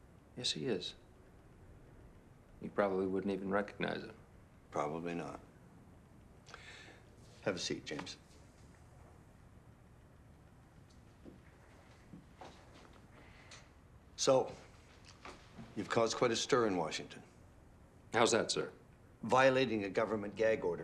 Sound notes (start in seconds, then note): 10.7 footstep